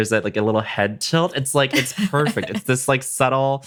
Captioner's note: laughs